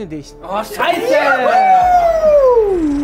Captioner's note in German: Jubel